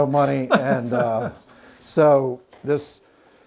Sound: laughing

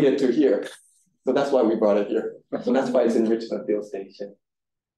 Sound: audience Chuckling

